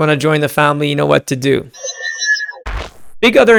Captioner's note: electric whooshing